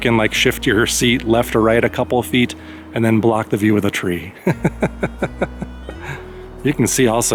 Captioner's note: laughter